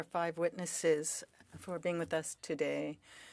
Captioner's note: speaking French